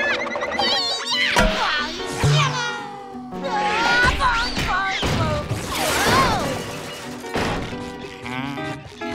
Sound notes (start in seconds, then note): 1.4 groaning; 3.0 screaming